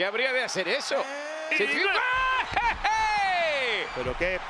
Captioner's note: laugh